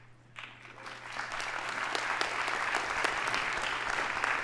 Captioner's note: audience applauding